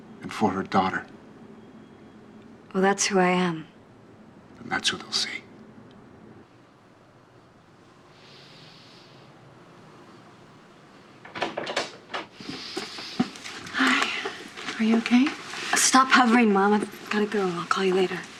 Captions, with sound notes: and for her daughter. Well, that's who I am. That's what they'll see. (DOOR OPENING) Hi, are you okay? Stop hovering, Mom. I've got to go, I'll call you later.